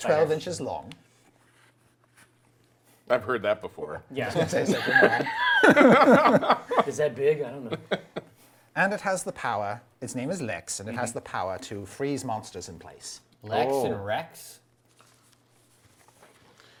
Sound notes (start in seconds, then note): 4.2 laughing